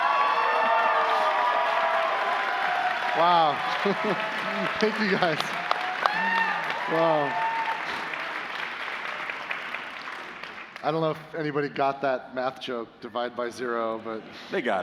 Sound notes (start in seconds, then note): 4.9 applause; 6.6 cheers and applause